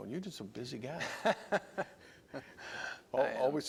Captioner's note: laughter